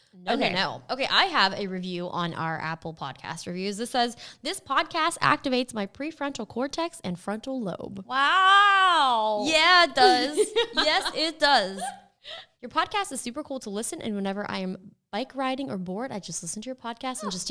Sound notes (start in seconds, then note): 9.9 Jenna and Justine laughing